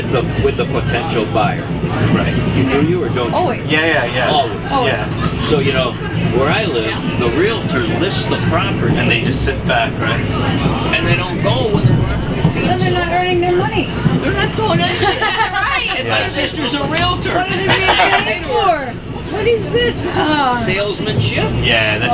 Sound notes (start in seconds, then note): 15.9 laughing